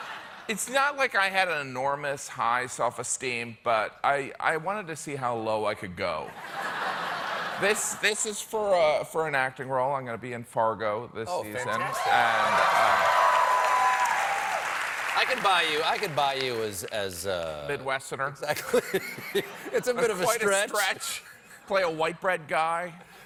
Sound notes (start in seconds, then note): 17.3 applause